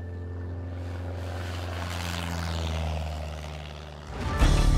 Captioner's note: plane engine revs; upbeat music